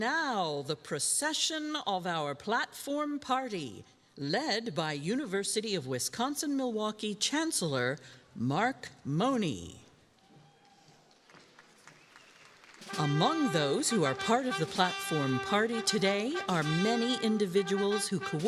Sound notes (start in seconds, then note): 10.8 crowd applauding